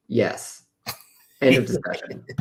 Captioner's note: laughter